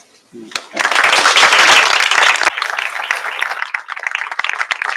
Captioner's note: applause